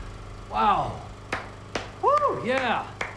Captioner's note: clapping